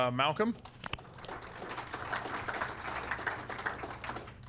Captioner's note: audience applauding